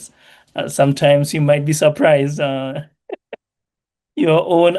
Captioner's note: chuckles